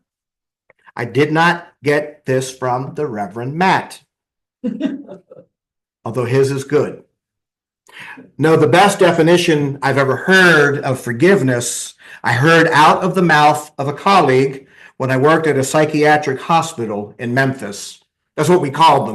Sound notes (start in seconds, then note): 4.6 laughter